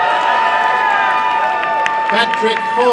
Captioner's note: applause and cheering